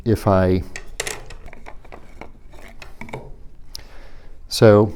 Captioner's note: rod clacking